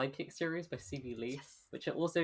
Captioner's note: whispered